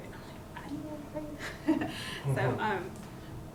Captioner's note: chuckling